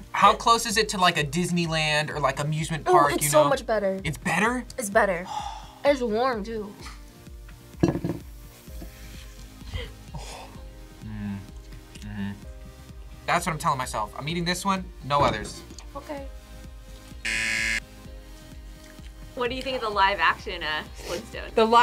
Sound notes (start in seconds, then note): 5.2 sighs; 10.9 sighs; 17.2 buzzer